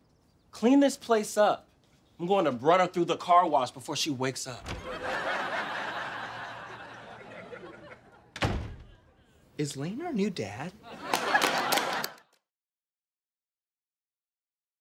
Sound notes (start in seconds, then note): 8.3 door closes